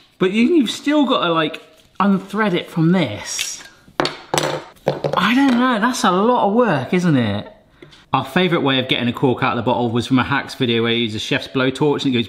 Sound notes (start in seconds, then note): 4.0 pieces clatter